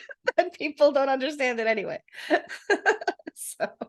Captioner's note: laughing